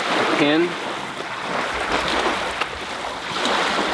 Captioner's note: water whooshing